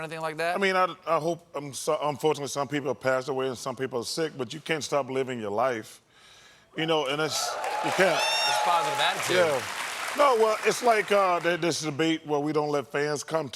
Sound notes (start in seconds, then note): 7.1 applause